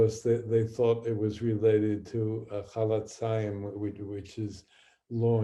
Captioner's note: speaking hebrew